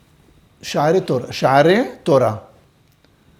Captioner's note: Hebrew